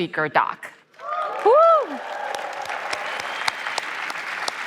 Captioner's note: applause